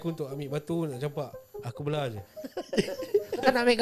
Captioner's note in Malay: ketawa